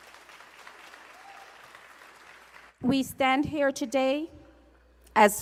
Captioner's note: applause